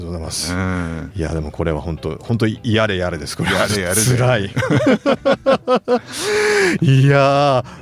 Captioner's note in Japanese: 笑い